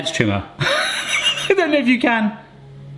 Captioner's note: laughs; machine hums louder